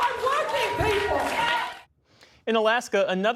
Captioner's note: cheering